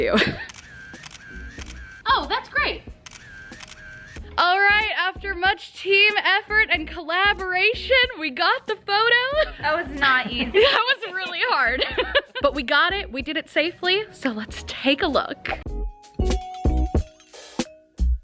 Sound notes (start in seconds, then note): 0.4 camera clicking; 11.6 laughs; 15.5 upbeat music